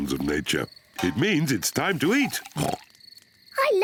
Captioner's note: oinks